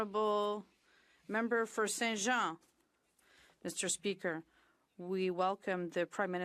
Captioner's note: speaking French